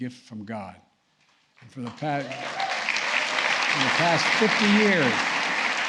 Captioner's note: applause